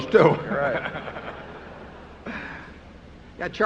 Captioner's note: laughter